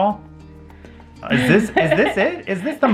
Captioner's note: laughs